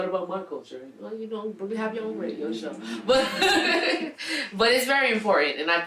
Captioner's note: laughing